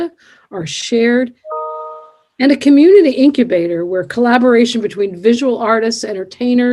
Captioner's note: computer chimes